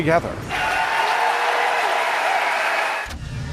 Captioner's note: applause